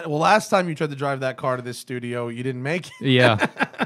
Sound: laughter

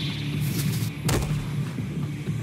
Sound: thud

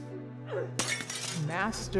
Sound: glass shattering

